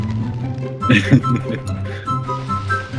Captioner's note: laughing